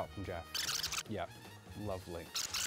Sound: tape screeches; tape screeches

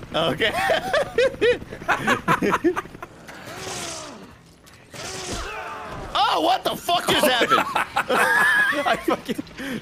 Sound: laughs

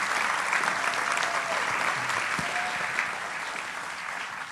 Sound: applauding

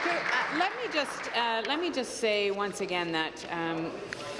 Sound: applause

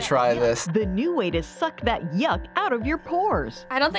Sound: voice-over

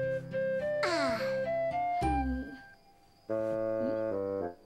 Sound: sighs

